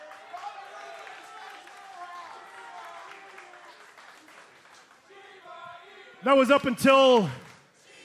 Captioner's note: crowd response